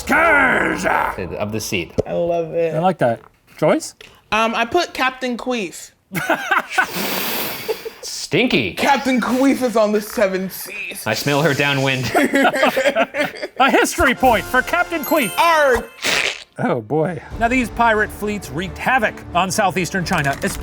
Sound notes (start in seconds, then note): 6.2 laughing; 11.5 laughing; 15.8 makes queef sound